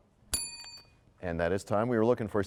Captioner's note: bell rings, time expires